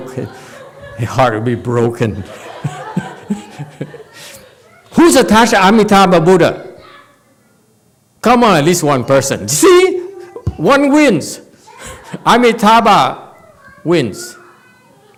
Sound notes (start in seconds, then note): 2.0 and audience laughs